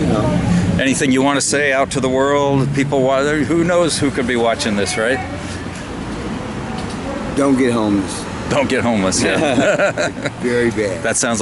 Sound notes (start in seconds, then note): 9.2 both laughing